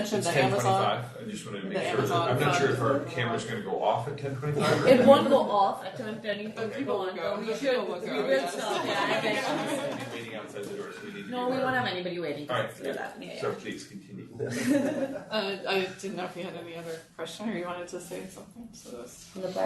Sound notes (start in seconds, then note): 8.0 group laughing; 8.1 laughs; 8.7 group murmuring